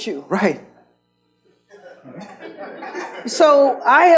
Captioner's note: audience laughs